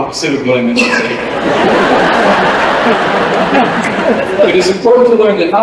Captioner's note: laughter